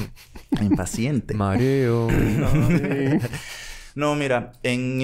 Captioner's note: laughs